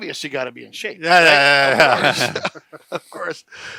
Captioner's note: men laughing